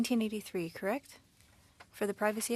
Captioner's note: speaking French